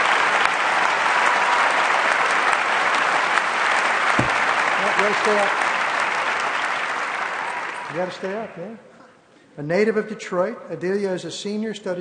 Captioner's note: applause